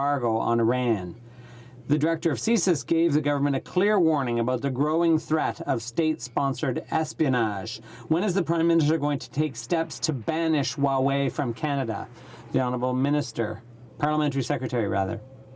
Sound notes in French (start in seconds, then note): 8.4 voix de l'interprte